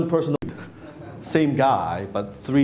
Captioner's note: laughing